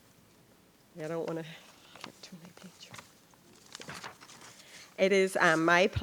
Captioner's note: faintly speaking